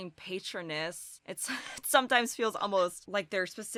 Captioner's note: chuckles